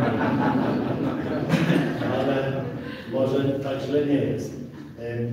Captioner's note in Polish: śmiech z sali